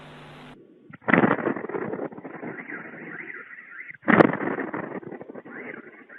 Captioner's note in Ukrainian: вибух